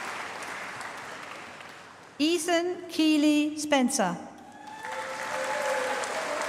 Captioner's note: applause